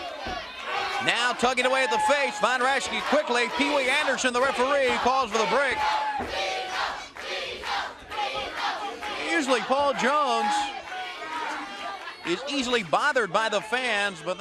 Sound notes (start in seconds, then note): 9.0 crowd cheering